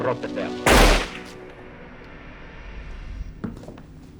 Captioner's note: guns click; gun fires